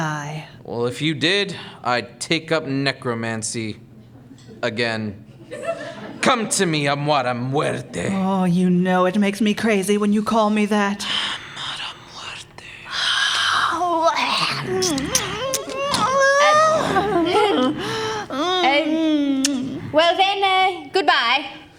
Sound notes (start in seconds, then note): 12.1 whispering; 14.0 furious making out sounds, throughout